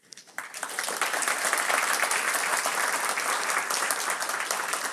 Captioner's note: applause